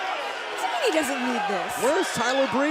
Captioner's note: cheers & boos